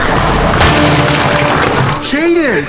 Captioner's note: bin breaking